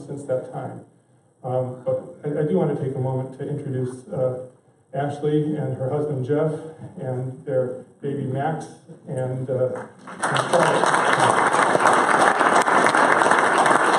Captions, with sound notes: since that time. I do want to take a moment to introduce Ashley and her husband, Jeff, and their baby, Max. [applause]